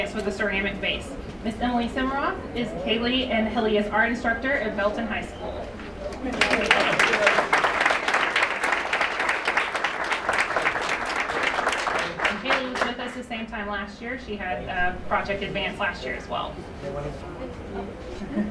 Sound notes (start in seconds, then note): 6.1 applause